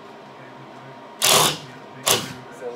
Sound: drill noise

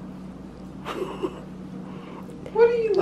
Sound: chuckling

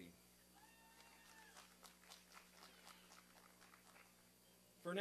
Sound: applause and cheering

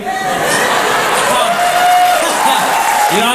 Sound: crowd applauds

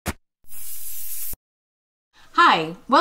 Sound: words hissing

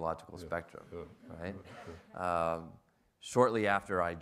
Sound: audience laughs

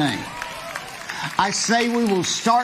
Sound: audience clapping

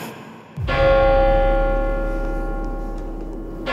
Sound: bell tolling

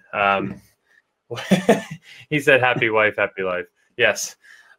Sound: laughs

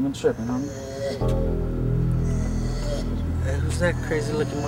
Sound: Adriel growls

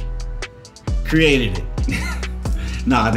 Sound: chuckles

